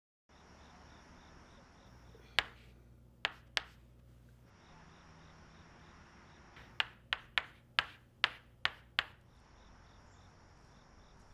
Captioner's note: crickets chirping